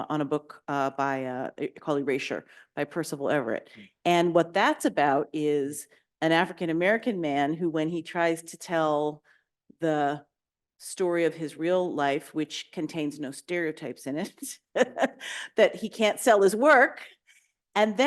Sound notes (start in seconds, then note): 14.8 chuckles